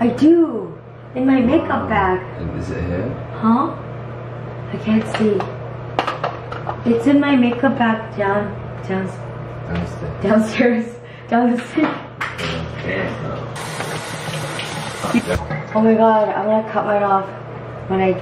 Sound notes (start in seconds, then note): 14.6 laughs